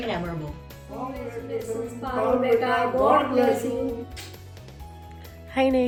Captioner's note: speaking foreign language